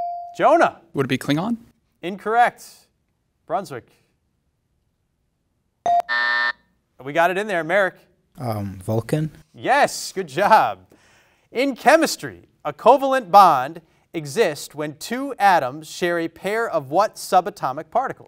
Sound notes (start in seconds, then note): 5.9 bell rings; 5.9 alarm buzzes